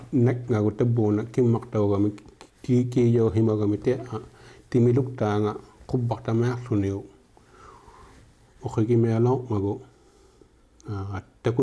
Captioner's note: speaking inuktitut